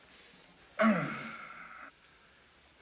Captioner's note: groans